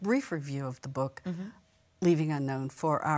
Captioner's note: sound of acknowledgement